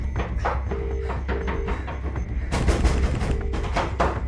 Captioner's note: phone ringing